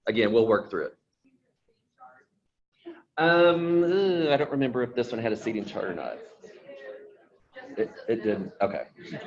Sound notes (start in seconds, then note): 2.0 speaks faintly; 6.8 people chattering; 8.9 people laughing